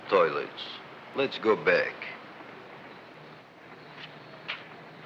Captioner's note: feet thumping